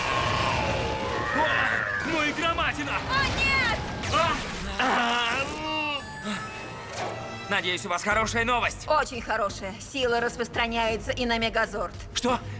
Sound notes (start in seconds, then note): 6.0 chimes